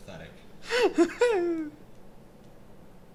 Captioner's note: giggling